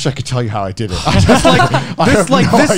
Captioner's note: laughs